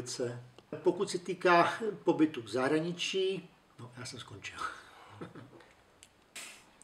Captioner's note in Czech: smích